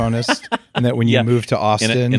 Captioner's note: laughs